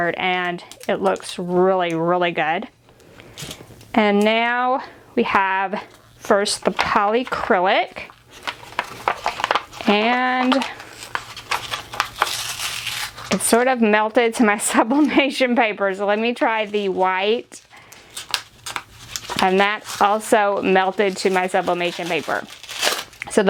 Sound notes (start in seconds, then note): 7.7 paper crumpling